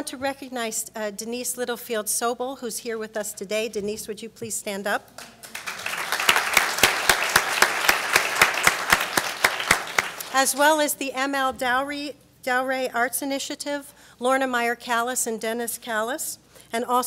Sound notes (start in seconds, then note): 5.1 applauds